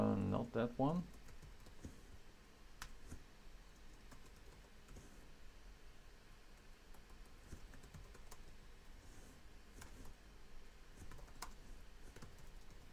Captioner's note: typing